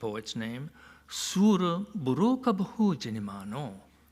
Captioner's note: non-english speech